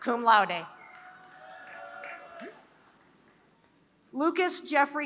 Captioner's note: applause